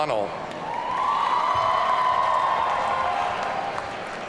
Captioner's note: audience cheering